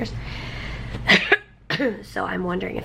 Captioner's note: coughing